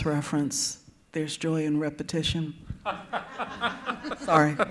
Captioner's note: laughs